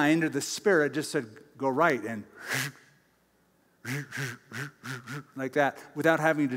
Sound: whirring noises

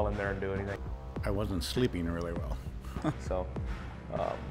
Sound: chuckles

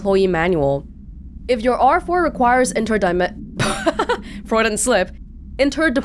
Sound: laughs

